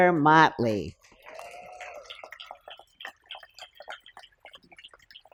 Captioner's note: applause